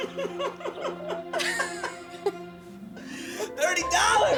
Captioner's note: laughter